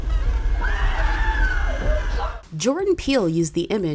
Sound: girl screams; voiceover

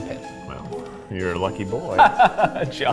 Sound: laughing

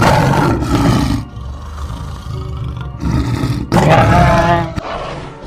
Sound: saber Tooth Tiger growls

